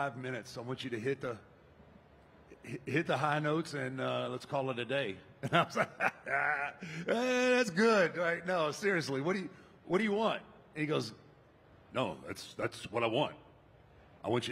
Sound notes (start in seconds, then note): 5.4 laughs